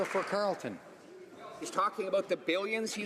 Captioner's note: some Applause